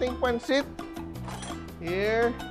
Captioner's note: clang